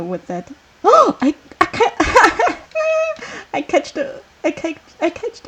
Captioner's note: laughing